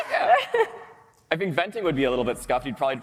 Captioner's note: laughter